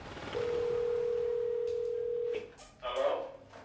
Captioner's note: intercom ringing; intercom Voice